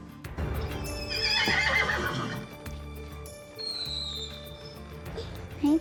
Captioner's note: horse neighs; footsteps